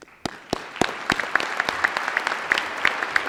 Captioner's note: applause